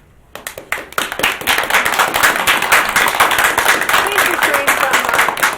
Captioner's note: group applauds